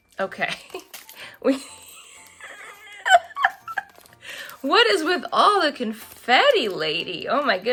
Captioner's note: laughs hysterically